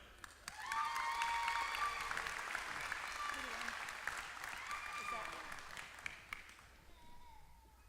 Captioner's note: applause